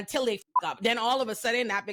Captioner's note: beep